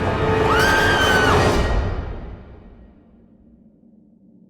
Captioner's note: girl screaming